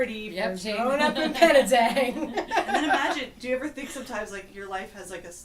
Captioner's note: laughs